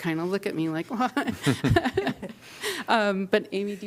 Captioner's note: laughter